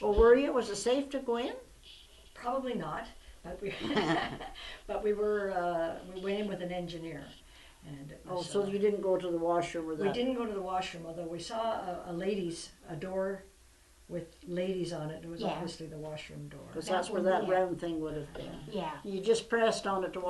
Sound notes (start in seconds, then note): 3.7 laughter